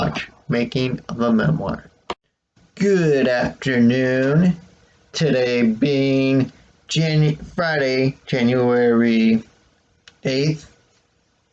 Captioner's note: click